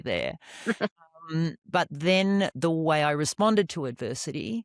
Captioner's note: laughs